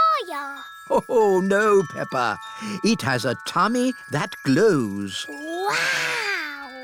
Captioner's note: laughs